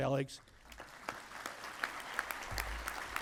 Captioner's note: applause